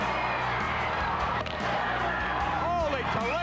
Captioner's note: crowd cheers